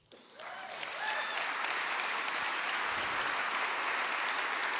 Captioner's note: audience clapping